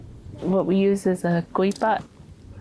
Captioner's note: speaks foreign